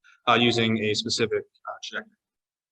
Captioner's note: audio distortion